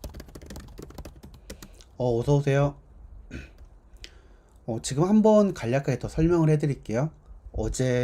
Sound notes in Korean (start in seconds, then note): 3.3 목을 가다듬음